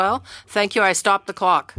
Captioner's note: speaking French